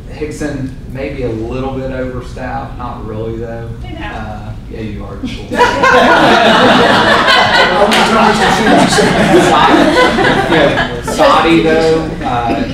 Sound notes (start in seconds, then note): 7.9 laughter